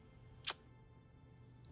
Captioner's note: Nandita clicks tongue